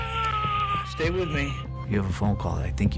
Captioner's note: crying